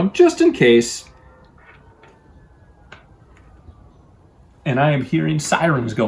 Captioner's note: sirens wailing faintly